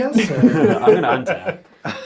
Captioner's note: all laugh